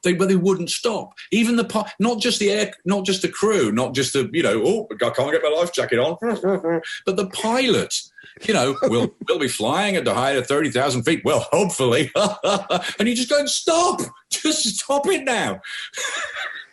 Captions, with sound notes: they wouldn't stop. Even the--not just the crew, not just the "I can't get my life jacket on", but the pilot, "We'll be flying into height of 30,000 feet well hopefully" (laughs) and you're going... just stop. Just stop it now (laughs).